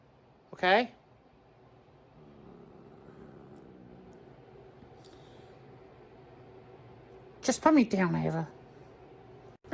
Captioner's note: Caprice growls at Rachael and Karly